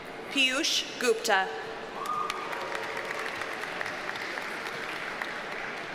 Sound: audience cheers and applauds

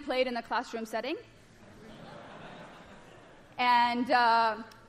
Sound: laughter

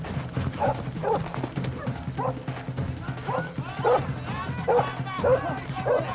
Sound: dogs barking

